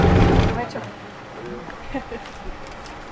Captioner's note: in Spanish